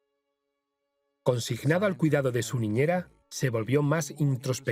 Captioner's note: solemn music; voiceover